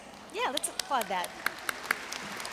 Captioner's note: audience applauds